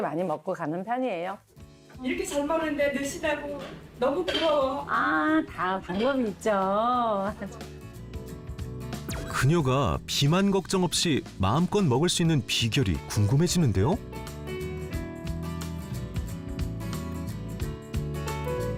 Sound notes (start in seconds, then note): 1.2 voiceover; 13.3 voiceover